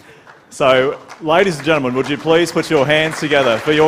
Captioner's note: applause